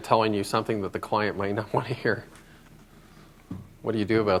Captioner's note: laughter